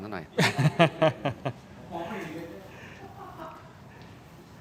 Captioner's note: laughs